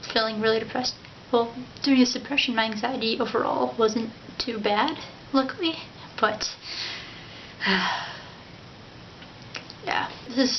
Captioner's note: sigh